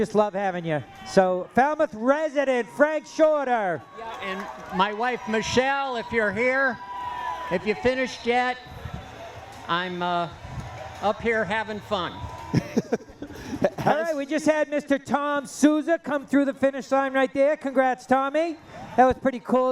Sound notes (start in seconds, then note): 7.4 cheering; 12.5 laughter